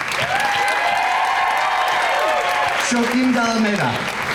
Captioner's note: crowd cheering